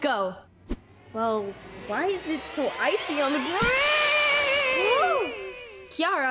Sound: screams

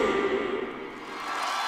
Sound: cheering

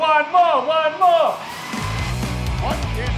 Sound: shredder

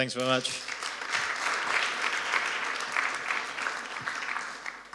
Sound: applause

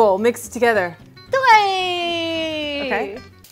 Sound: speaking in mandarin

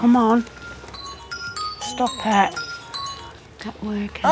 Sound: phone rings

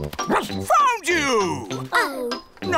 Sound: barks

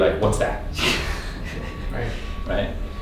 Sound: laughing

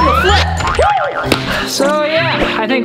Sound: cheers

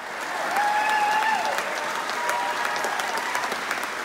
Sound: applause

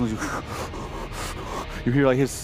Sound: heavy breathing

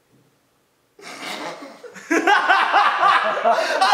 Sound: laughs

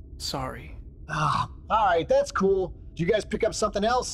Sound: sigh

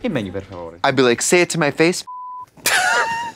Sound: beep

